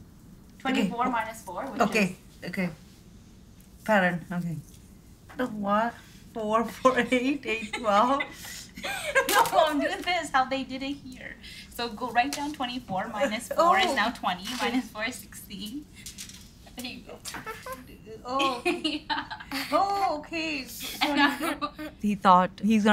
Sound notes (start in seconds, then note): 7.4 laughing; 17.2 giggles